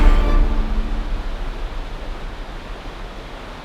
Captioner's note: water gushing